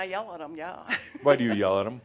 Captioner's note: she chuckles